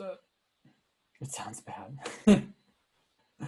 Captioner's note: laughing